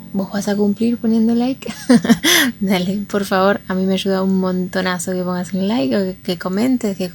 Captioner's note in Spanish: risas